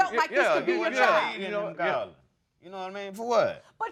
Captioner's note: stammering